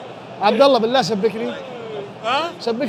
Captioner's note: in Arabic